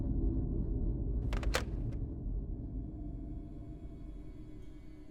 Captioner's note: hangs up receiver; ominous music